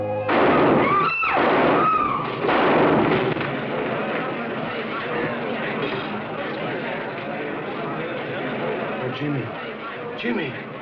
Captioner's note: gunshots